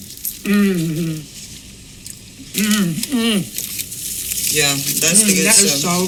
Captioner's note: groans